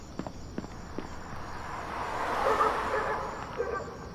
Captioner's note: cars passing